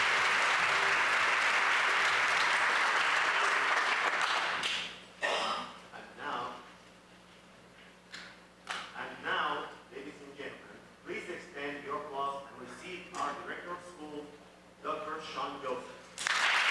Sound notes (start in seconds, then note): 1.7 applause